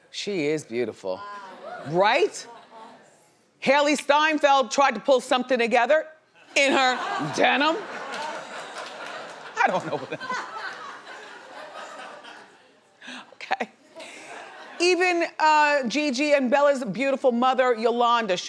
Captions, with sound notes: She is beautiful, right? Hailey Steinfeld tried to pull something together in her denim. (laughs) I don't know what that. Okay. Even Gigi and Bella's beautiful mother Yolanda,